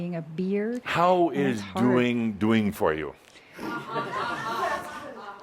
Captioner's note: some laughter